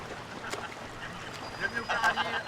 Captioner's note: laughs